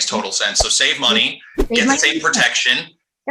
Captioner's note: quick transition sound